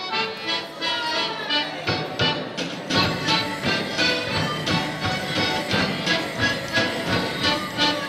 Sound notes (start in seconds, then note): 0.8 bells jingling